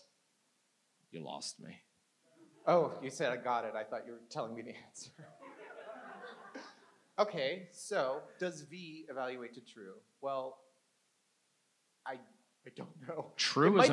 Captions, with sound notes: - You lost me. - Oh, you said, "I got it." I thought you were telling me the answer. (audience laughs) Okay. So does V evaluate to true? Well, I don't know.